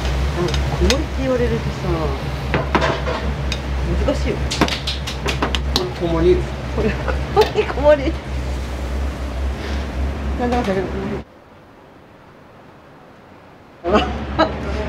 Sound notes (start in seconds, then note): 6.8 laughter